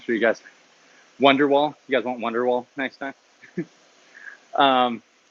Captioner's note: laughs